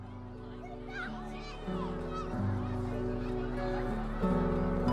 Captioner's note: mellow music; chatter in the background